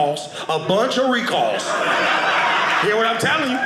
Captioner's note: audience laughing